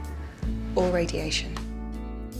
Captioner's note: voiceover